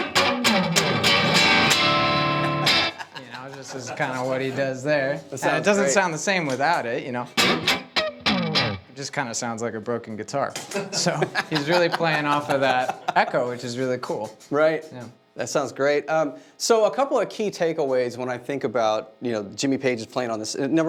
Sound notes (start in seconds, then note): 0.0 guitar music; 7.5 guitar music; 10.6 laughing